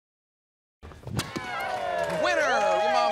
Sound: cheers

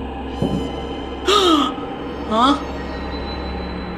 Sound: gasp

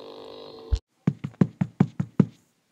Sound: foot Steps

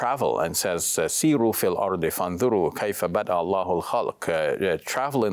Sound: speaks in Arabic

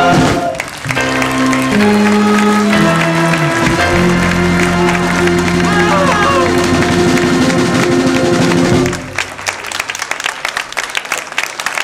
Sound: applause

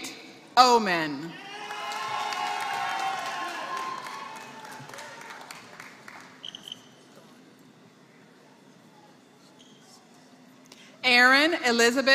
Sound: applause

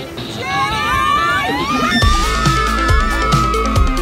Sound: all screaming

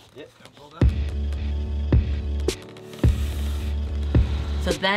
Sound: box creaking

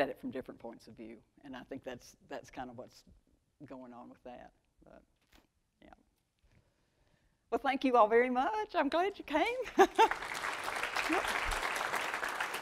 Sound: applause

